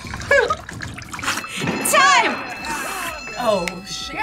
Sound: bell rings

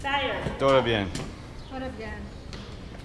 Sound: speaking Spanish

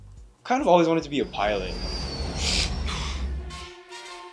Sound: sound of airplane flying over

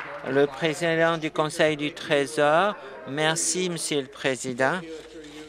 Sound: applause

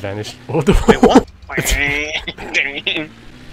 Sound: car noises

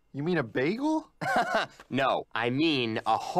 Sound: laugh

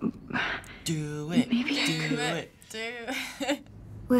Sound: laughs

